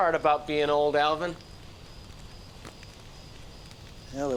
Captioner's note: insects chirp